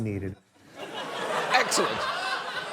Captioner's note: studio audience laughs